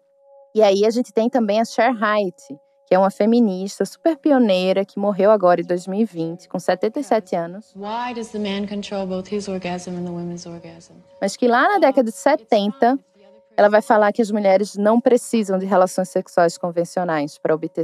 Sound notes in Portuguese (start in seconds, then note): 8.4 trecho de entrevista em inglês